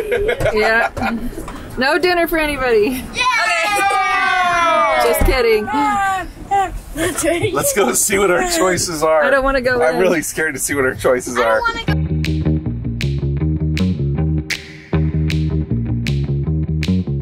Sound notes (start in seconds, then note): 0.0 laughs; 3.1 kids cheer; 11.9 upbeat music